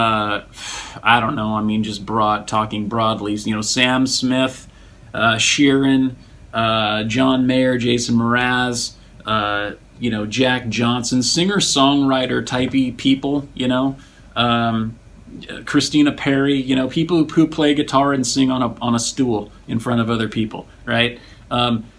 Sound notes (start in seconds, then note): 0.5 sighs